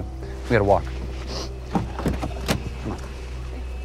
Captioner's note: Tyler sniffs; tense music